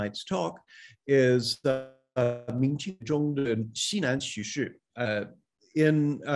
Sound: speaking in Mandarin

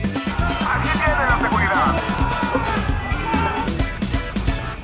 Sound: screams of angry mob

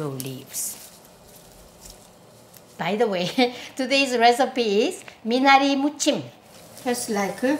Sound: laughs

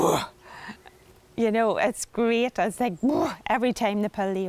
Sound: grunts

